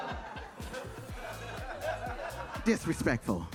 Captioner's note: audience laughing